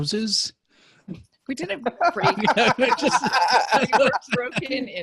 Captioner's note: laughter